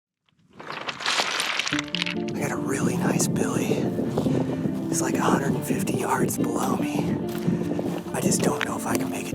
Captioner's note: rocks sliding